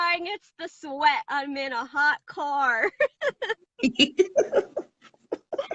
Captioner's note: laughs